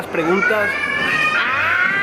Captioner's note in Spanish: Grito de un niño